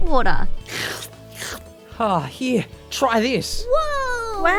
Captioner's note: sipping